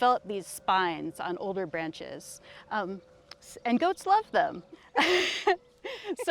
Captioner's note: laughs